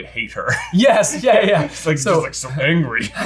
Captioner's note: laughs